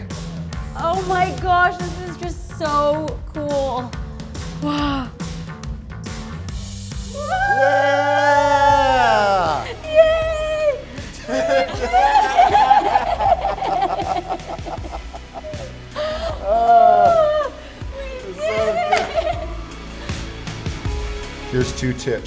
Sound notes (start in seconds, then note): 7.2 cheering; 12.9 laughter